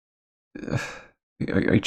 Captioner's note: sigh